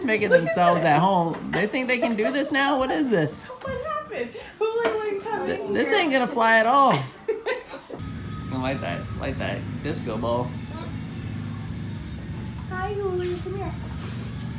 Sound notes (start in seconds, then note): 6.8 woman laughing